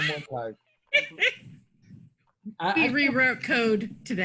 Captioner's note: laughing